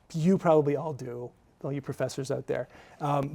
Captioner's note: none